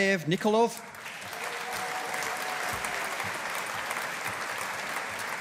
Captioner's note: audience applauding